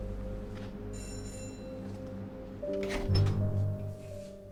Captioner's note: doorbell ringing